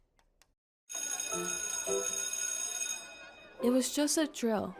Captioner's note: school bell rings